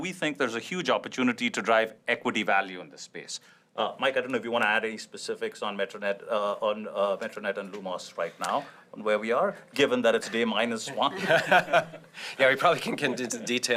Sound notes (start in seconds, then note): 10.9 laughter